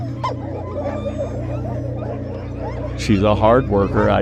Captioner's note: dogs barking